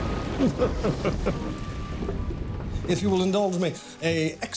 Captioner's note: laughs